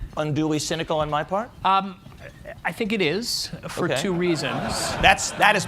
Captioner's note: laughter